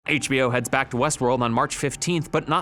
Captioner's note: voiceover